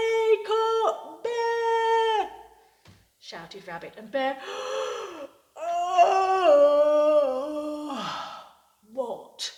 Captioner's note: yawns